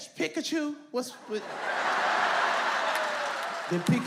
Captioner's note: audience laughs